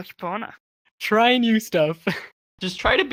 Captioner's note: laughter